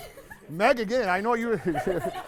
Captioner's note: laughing